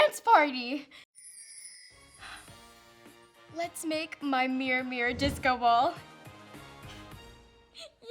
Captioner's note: loud exhaling